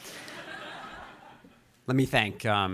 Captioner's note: audience laughing